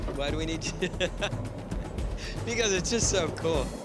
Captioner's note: laughs